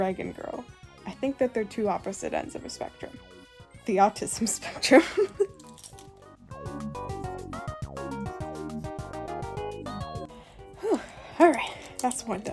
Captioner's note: laughs